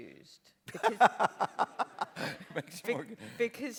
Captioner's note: bryan laughs